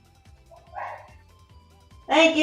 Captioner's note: dog barks